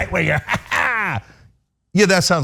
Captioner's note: laugh